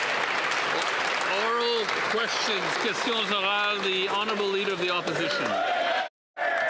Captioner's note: some Applause